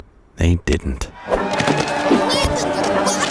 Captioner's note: lively music; Israelites shouting